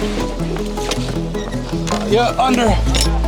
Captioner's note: door squeaking